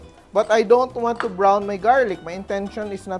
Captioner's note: clang